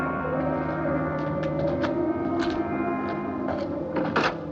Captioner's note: wind blowing